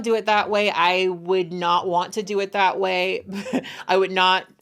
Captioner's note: laughing